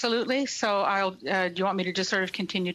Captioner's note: speaking in French